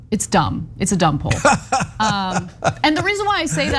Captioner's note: laugh